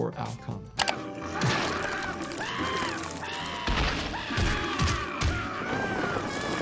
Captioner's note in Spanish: oso gruñendo; Lumpy gritando